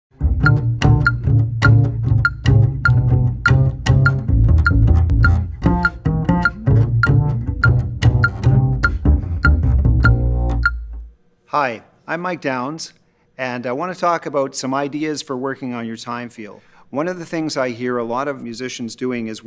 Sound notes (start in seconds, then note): 0.3 jazzy upright bass playing; 3.3 metronome beeping